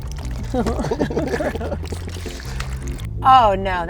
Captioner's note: mixture sloshes; laugh